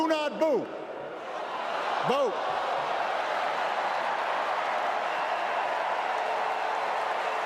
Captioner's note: crowd booing